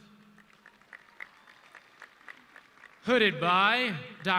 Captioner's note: audience clapping